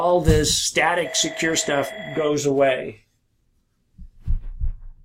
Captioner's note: phone ringing